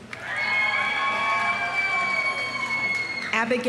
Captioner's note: audience applauding; audience cheering